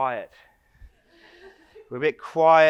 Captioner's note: audience laughs